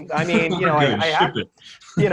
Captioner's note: laughing